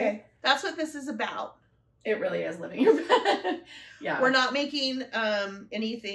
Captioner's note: laughter